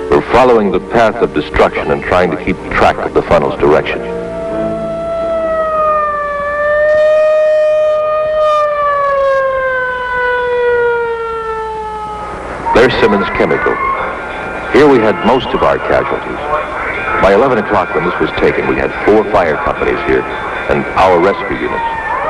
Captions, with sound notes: They're following the path of destruction and trying to keep track of the funnel's direction. [Sirens] There's Simmons Chemical. Here we had most of our casualties. By 11 o'clock the list was taken. We had four fire companies here, and our rescue units.